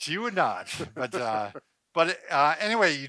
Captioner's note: laughs